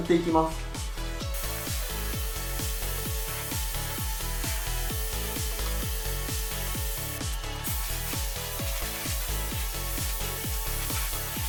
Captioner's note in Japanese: 塗装音